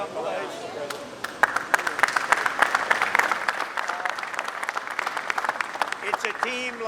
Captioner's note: applause